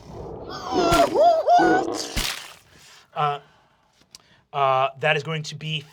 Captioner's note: owlbear hoots and growls